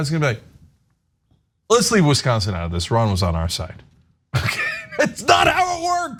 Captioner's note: laugh